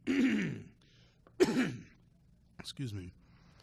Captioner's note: coughing